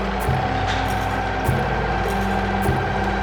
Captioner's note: sewing machine whirring